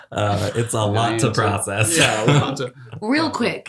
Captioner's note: laughs